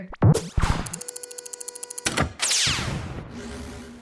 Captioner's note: electrical swoosh